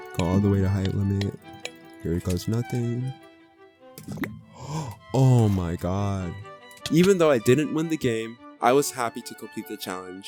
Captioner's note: gasp